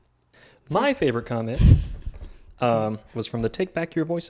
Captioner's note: laughing